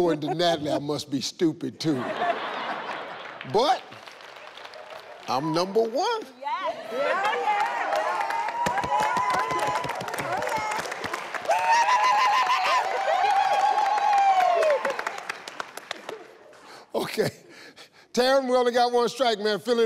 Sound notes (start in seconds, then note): 1.8 people laughing; 9.0 people applauding